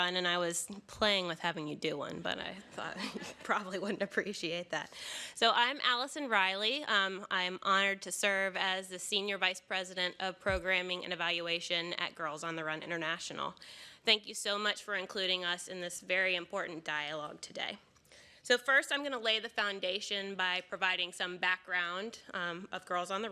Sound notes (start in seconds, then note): 2.9 laughter; 3.0 laughs